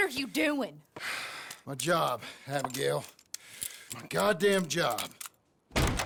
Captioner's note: sighs